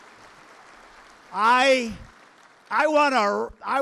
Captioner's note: applause